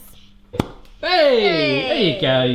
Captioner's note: pop